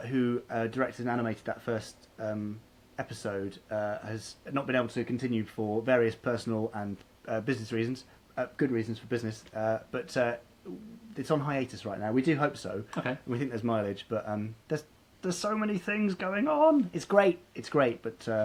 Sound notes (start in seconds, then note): none